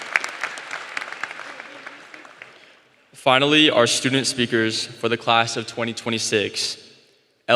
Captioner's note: applause